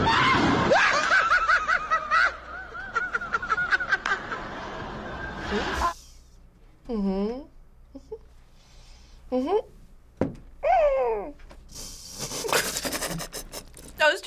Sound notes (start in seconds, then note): 0.6 people laughing; 7.0 hums; 11.8 laughs